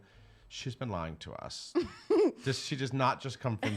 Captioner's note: laughing